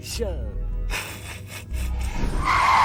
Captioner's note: snickers